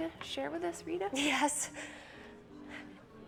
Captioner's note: inhales